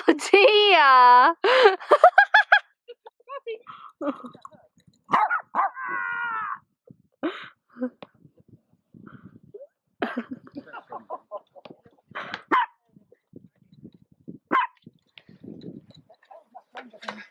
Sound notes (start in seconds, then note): 5.1 dogs barking; 5.1 laughing; 10.1 laughing; 14.5 dogs barking